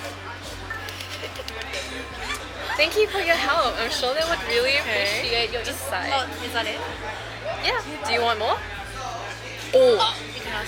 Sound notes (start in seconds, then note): 0.9 claps; 1.1 laughs